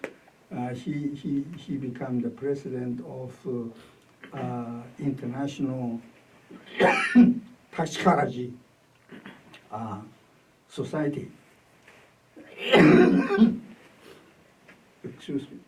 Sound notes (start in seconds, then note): 0.0 speaks Chinese; 6.6 coughs